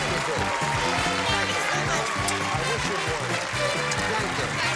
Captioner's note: applause